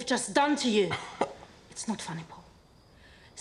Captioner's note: scoffs